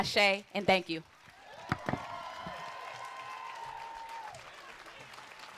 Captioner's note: applause